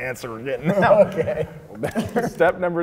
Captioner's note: laughing